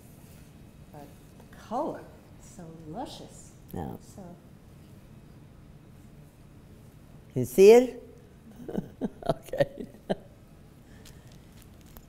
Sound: laughs

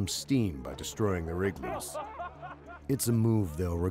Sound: voiceover

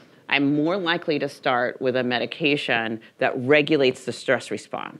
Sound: none

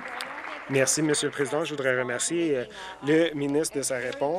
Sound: applause

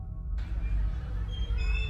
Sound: eerie music; children playing; swing squeaking

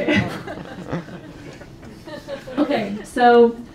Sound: audience laughs

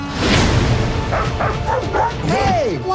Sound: dog barking

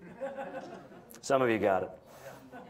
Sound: audience members chuckling

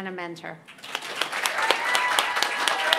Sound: applause

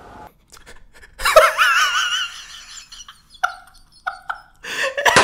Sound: laughing

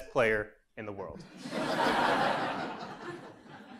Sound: laugh

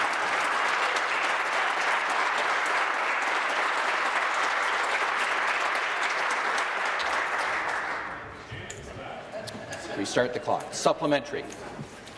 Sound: applause

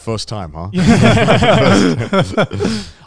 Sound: all laugh

